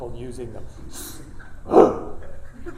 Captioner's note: grunting